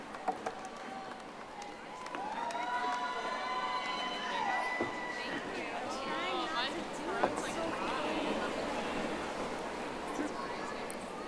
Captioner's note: audience applauding